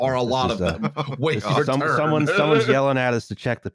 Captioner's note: chuckles